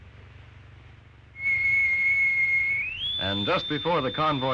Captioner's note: loud whistle